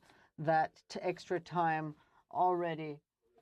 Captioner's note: speaking French